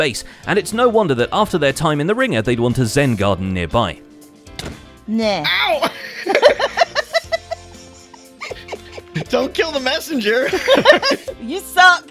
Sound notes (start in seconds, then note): 4.5 smacks; 5.6 laughs; 8.9 giggling